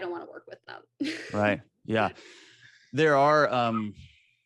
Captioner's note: AJ laughs